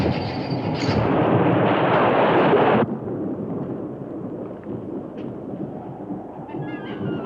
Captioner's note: thunder crashing; waves crashing; mysterious music